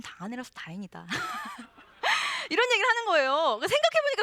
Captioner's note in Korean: 웃음